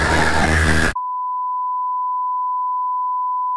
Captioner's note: TV signal tone